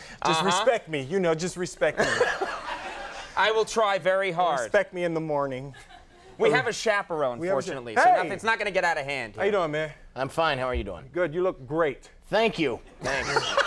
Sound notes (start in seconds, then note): 1.8 Conan laughing; 2.4 audience laughing; 13.0 Conan laughing